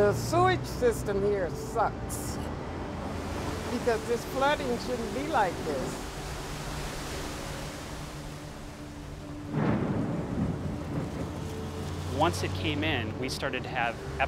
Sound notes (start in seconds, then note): 9.0 thunder rumbling